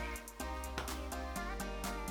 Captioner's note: slap